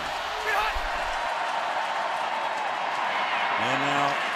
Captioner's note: crowd cheering